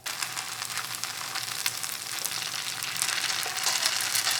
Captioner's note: oil bubbling